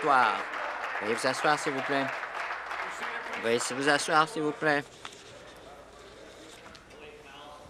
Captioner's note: applause